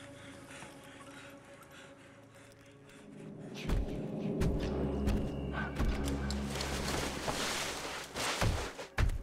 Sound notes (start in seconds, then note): 3.4 ominous swell, footsteps; 6.4 rustling